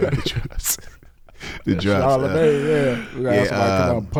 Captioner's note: laughing